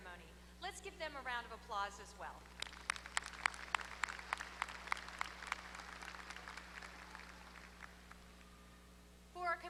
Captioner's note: applause